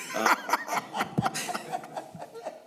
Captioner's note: laughter